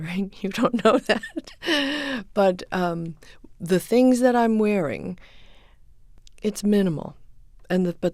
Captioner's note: soundbite of laughter